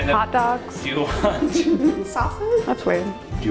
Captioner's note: laugh